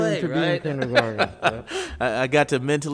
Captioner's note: laughing